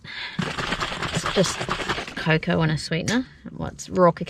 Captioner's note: liquid sloshes; liquid sloshes more as it's shaken enthusiastically